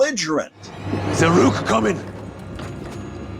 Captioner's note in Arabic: يتحدث الألمانية